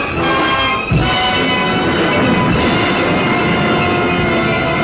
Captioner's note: suspenseful music; waves roaring